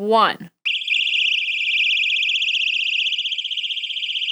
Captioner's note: alarm blaring